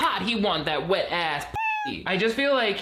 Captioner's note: cat meows